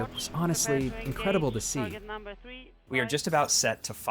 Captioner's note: radio Voice